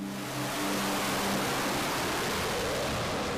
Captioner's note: jet zooming